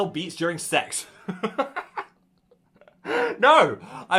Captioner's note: host laughs